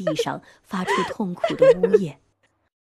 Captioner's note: pained